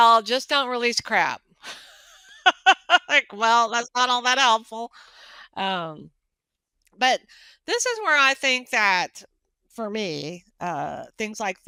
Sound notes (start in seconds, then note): 1.4 laughing